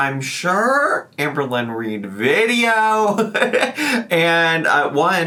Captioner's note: laughs